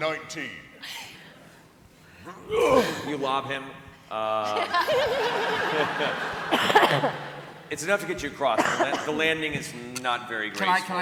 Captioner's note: grunts